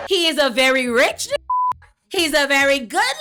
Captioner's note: beep